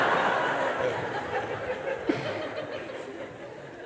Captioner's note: laughter